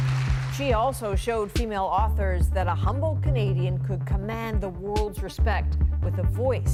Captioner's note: applause